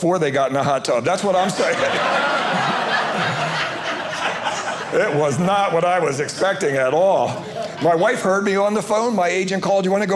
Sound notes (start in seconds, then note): 1.1 audience laughing